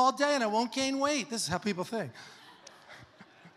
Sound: congregation laughs; laughs

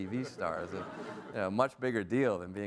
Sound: audience laughs

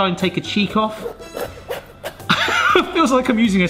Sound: knife sawing; laughs

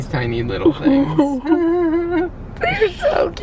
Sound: chuckling

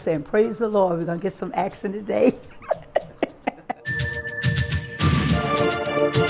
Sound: laugh

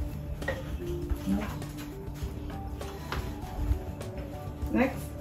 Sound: muffled scraping

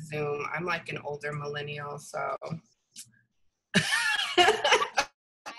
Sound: laughs

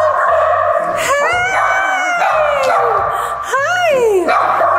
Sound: dogs barking

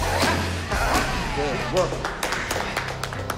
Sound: claps

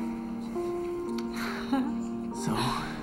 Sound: Nancy chuckles

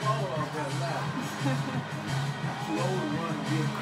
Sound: chuckles

